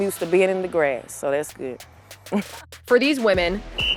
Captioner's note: chuckles